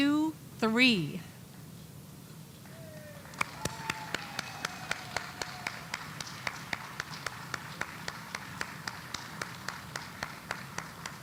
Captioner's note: applause